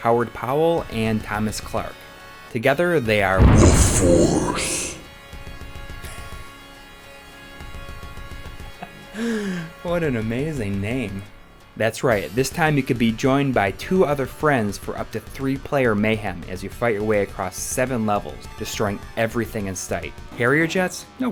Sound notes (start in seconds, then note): 5.8 laughs